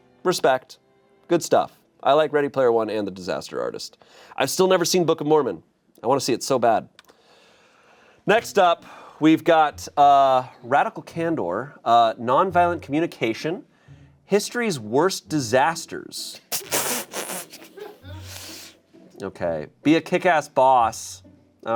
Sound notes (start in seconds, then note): 17.1 snickering